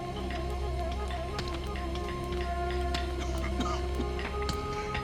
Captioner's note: coughs